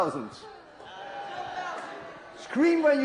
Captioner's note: crowd roars